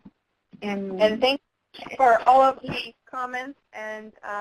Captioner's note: voiceover